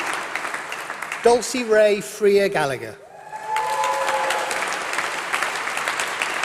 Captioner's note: applause